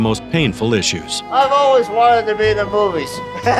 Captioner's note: laughs